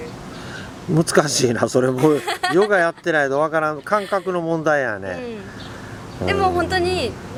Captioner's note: laughs